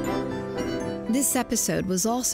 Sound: voiceover

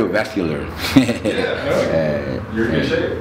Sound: chuckling

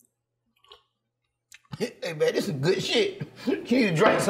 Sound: slurps

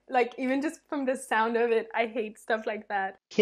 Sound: none

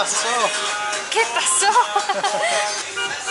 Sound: laughter

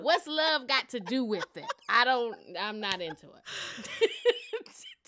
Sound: laughter; laughter

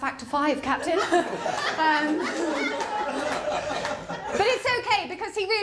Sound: laughter

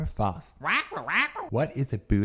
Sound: squawks

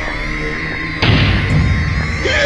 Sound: mario getting thrown in a painting sound

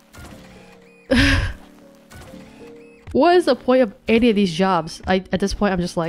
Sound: chuckles

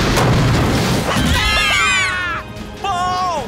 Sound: screaming

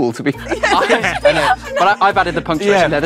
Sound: group laughs

